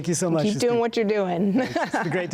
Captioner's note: laughing